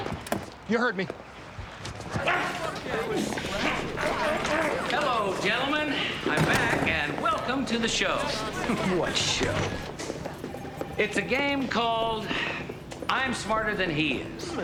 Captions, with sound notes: - Excuse me? - You heard me. (grunting throughout) - Hello ,gentlemen. I'm back, and welcome to the show. - What show? - It's a game called... I'm Smarter Than He Is.